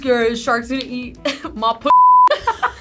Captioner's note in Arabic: الصافرة; الجميع يضحكون